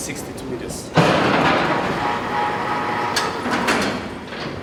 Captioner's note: elevator doors whirs